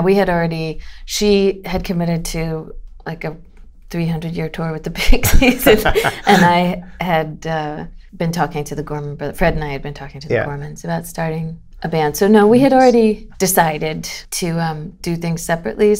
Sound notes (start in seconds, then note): 5.1 laughter